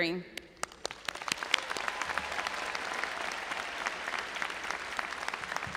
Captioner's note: audience applauding and cheering